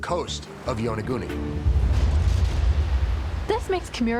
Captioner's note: wave crashing